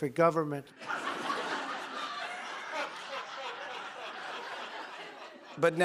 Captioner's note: laughter